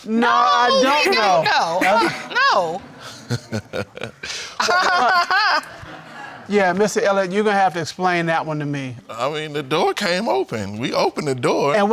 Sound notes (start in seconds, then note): 3.6 laughs; 4.8 laughs mockingly